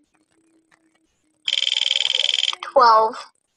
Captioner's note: wheel clicking